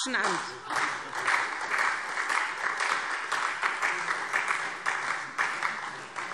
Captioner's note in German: Beifall SPD und Freie Demokraten